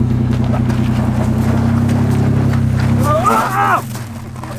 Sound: engine revving

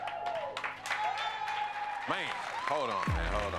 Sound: cheering and applause

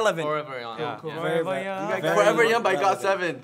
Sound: chatting

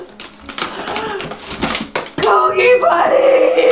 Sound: gasp

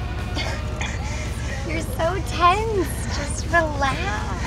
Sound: laughs

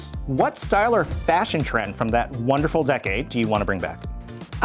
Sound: none

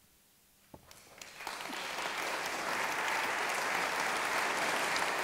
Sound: audience applauding

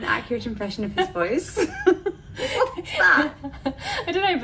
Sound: both laugh

